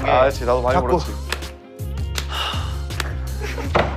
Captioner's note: slap